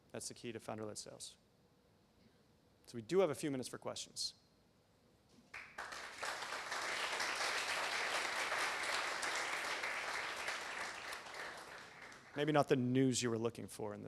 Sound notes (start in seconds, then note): 5.5 applause